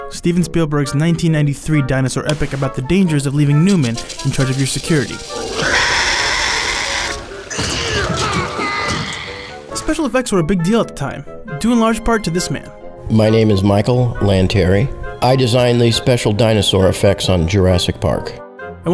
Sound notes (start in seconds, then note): 5.3 dinosaur roaring; 8.1 screaming